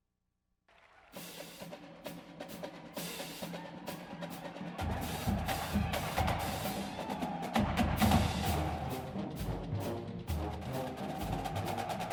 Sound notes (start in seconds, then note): 2.1 marching band music; 2.7 audience cheers